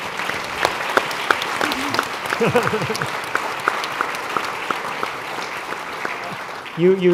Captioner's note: applause